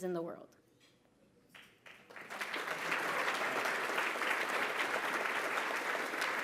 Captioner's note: applause